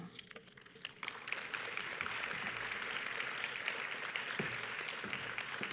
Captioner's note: audience applauds